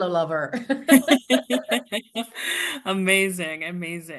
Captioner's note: both laughing